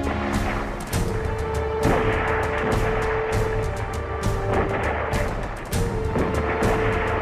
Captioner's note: gunfire